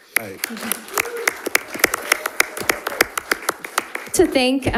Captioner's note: attendees applauding; attendees cheering